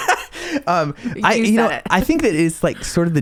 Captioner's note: laughing